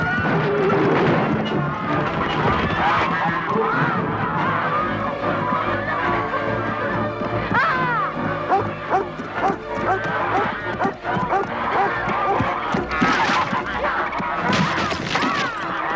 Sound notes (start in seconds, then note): 2.4 geese honking; 7.7 Hundra shouts; 8.6 Beast barking; 13.2 beam rattling